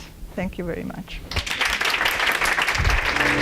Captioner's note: applause